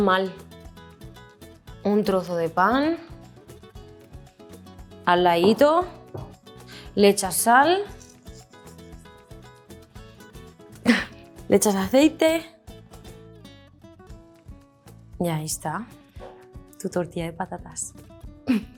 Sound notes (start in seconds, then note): 0.2 speaks in Spanish; 10.9 scoffs; 11.7 speaks in Spanish